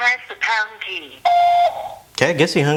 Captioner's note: beeping